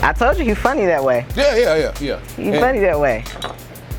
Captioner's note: both laugh